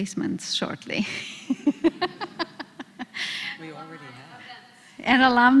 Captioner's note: laugh